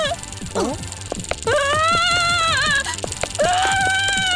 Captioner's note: wail; wail